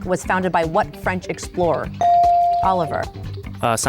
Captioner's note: bell dings